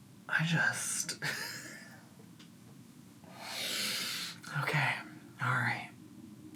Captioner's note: chortles